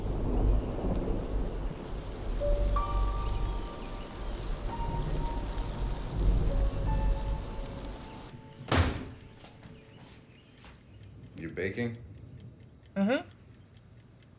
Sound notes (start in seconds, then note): 0.0 thunder rumbling; 8.6 door thudding